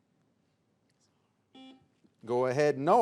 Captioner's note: buzzer beeps